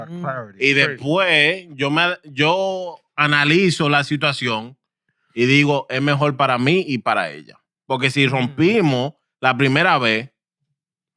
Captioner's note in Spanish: Hablando en idioma extranjero